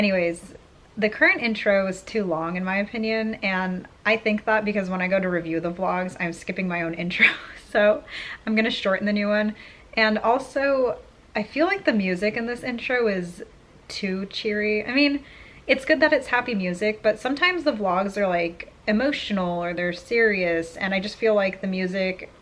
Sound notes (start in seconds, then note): 7.1 laughs